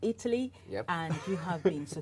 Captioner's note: laughs